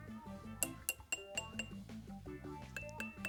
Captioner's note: jar tinking